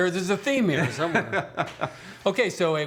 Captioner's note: laughs